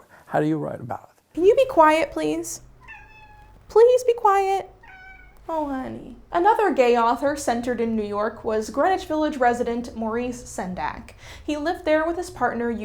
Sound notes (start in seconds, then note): 1.4 Mila meows; 4.9 Mila meows again